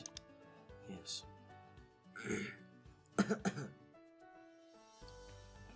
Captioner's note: coughing